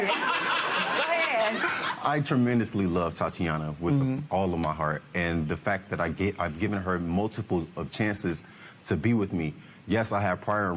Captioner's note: laughter